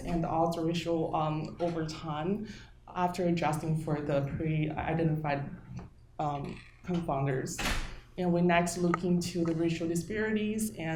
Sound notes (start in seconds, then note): 7.6 door slamming